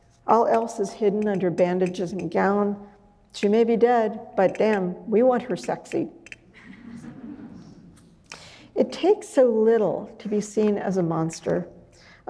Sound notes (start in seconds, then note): 8.7 audience chuckles